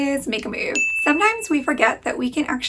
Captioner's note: bell pinging